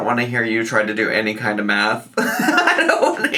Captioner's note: laughs